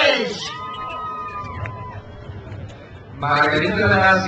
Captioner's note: crowd cheers